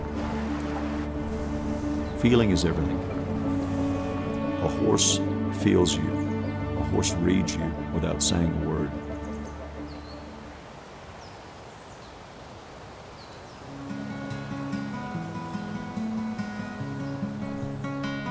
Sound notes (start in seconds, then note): 0.2 water babbling; 9.2 birds chirping; 13.6 gentle acoustic music